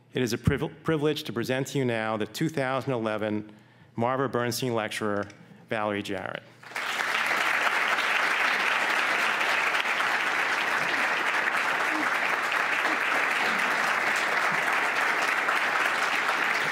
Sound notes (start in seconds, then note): 6.8 clapping